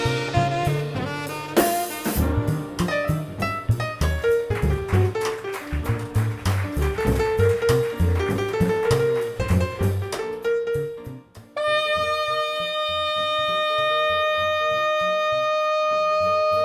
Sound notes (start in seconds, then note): 4.1 combo continues; 6.8 applause; 12.5 combo continues under saxophone